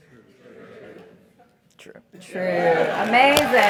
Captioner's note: laugh; applause